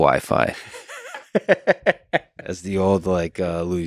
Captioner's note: Tim laughs